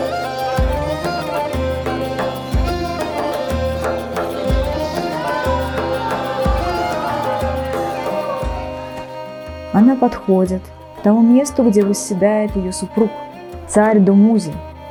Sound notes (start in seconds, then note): 0.1 the festive music of the Ancient Mesopotamia; 4.7 joyful cries